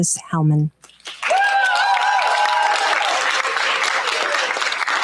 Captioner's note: cheers, applause